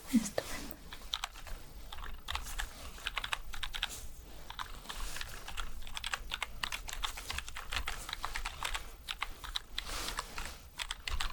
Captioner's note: typing sounds